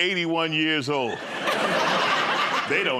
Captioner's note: laughter